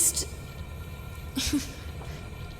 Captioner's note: she giggles again